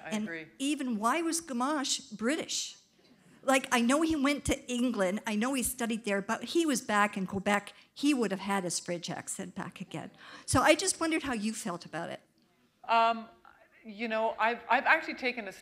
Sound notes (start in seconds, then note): none